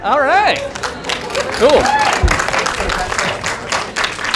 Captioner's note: applause